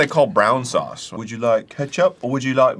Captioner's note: arin, trying out a dingy cockney accent